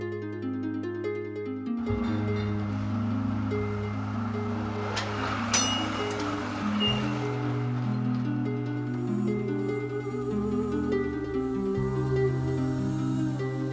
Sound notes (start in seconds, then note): 2.2 train rumbling; 5.6 train bell dinging; 8.5 gentle music; 8.5 wordless vocal music